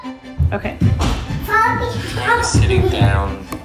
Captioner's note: kids chattering; head Space Voice